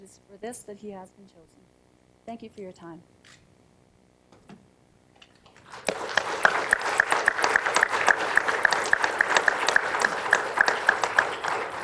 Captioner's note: applause